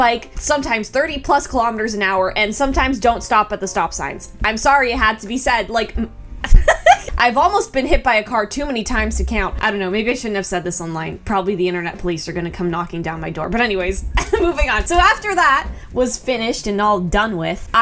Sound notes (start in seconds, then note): 5.9 stutters; 6.5 laughs; 14.1 chuckles